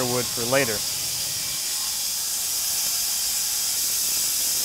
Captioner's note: saw buzzing